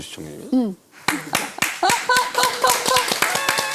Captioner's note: clap! Clap! Clap!